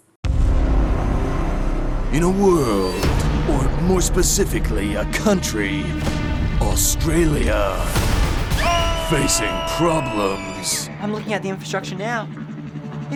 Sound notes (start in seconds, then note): 0.2 dramatic music; 8.5 screams